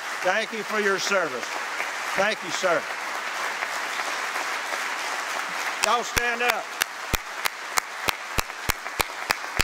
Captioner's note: applause